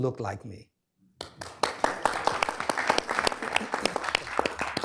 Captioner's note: applause